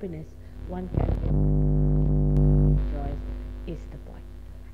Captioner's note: noise in mp3